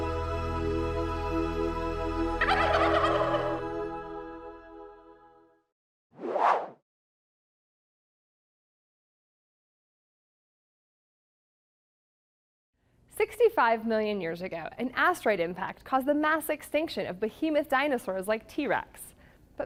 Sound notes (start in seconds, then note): 2.4 turkey gobbling